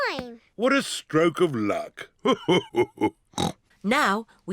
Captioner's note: laughs; snorts